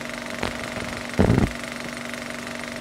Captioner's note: old optical film sound noise